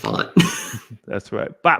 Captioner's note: laughs